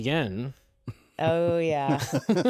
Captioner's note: laughs